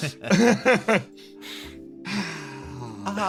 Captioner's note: laughs; Yaiyo sighs